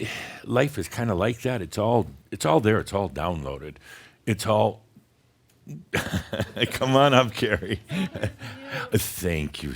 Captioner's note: chuckles